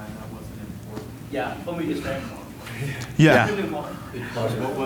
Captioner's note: speaks faintly